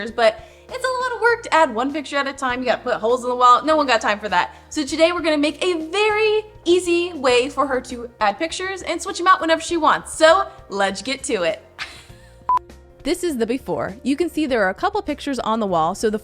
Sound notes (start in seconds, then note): 11.8 laughing; 12.4 beep